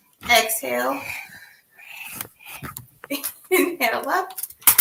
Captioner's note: exhales